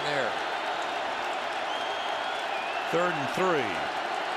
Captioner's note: cheering